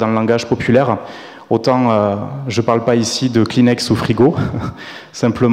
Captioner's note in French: rires